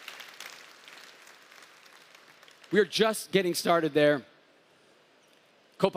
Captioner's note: applause